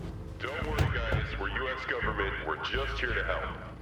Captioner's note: loudspeaker